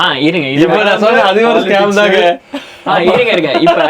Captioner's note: laughs